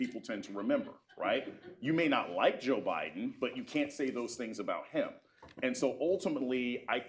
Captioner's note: laughter